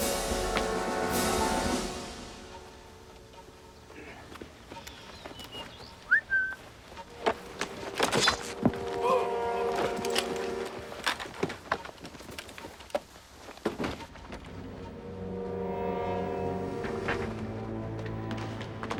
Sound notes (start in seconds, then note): 4.8 whistles; 9.0 soldier Groans